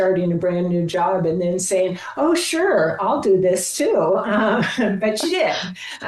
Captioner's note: giggling